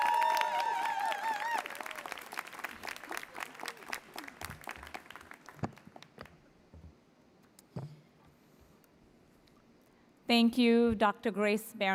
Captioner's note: applause